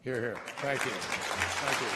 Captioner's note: applause